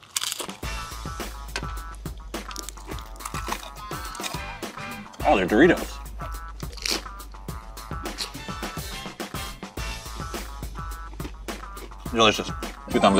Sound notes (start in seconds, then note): 0.0 Takeru munching; 0.3 upbeat music; 3.5 Joey munching; 5.7 Takeru munching; 6.9 upbeat music continues